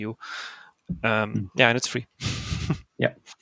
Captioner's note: laughs